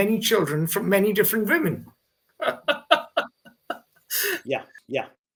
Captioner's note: laughs